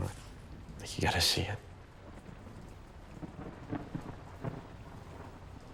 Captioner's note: rain splattering